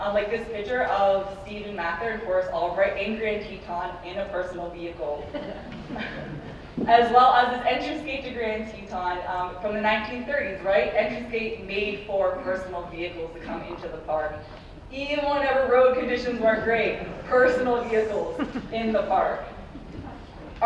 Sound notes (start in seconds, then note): 5.2 audience laughs softly; 18.3 audience laughs softly